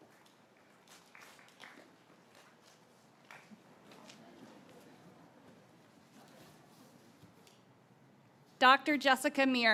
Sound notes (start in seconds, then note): 0.0 graduates clapping